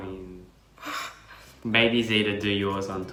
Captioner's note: laughing